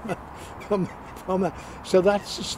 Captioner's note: men chuckling